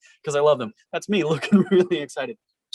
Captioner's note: laughs